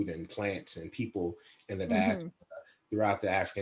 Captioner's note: laughs